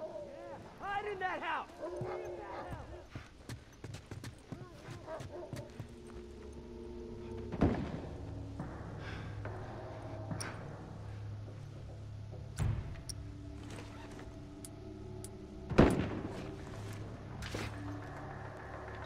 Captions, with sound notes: Yeah - hide in that house. See if that helps! *Dogs barking*